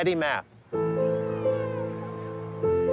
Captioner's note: children shout playfully